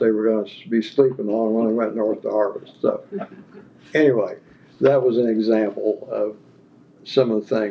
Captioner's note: laughter